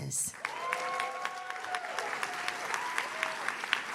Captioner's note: audience cheers